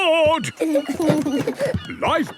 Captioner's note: both giggle